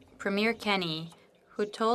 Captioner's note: speaking French